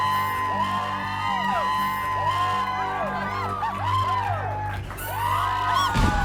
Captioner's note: cheering and applauding continues